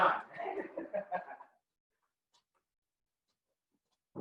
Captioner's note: laughing